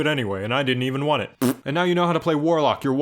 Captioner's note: raspberry noise